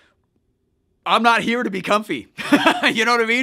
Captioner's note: laughs